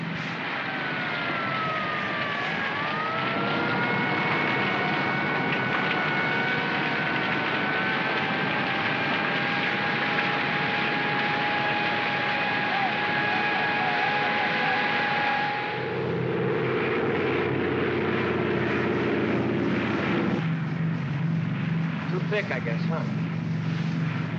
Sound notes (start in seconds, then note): 0.3 sirens wailing & flames crackling; 15.7 aircraft rumbles; 24.1 aircraft rumbles